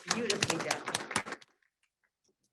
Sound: applause

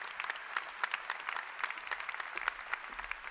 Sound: applause

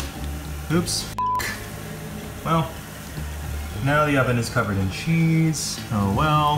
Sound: beep

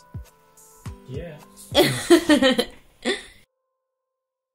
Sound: laughing

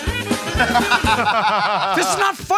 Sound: laughing

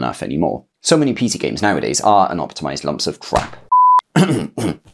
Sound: coughs

